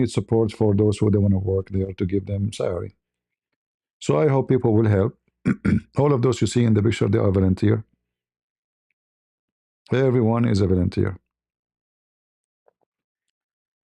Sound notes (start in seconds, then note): 5.4 berdehem